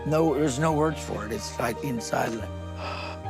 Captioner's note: gasps